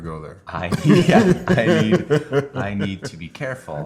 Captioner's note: laughter